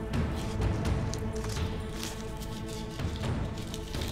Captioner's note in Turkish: Müzik - Hareketli; Kâğıt sesi